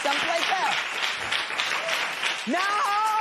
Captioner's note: applause